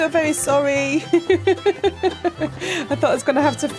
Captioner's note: laughing